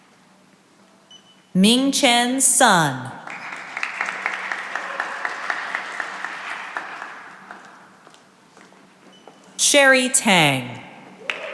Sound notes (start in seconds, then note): 3.2 cheering and applause; 11.2 cheering and applause